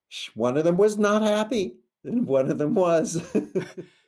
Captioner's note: laughs